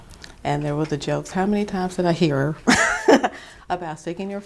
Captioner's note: chuckle